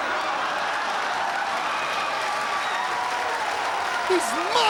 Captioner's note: audience cheering